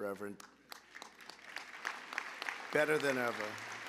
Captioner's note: applause